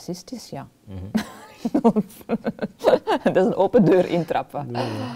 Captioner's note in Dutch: lacht